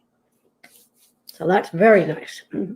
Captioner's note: rubbing hands together